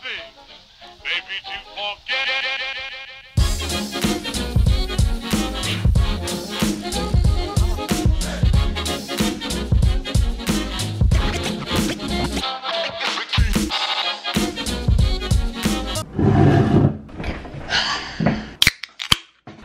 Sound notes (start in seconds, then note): 16.0 chair sliding; 17.7 heavy sigh; 18.6 can opening